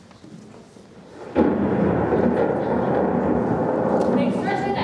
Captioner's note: thunderclap